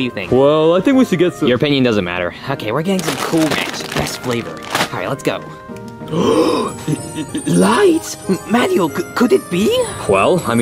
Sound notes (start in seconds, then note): 6.0 gasps